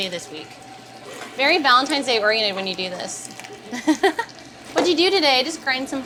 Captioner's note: laughs